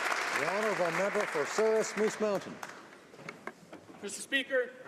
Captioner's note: applause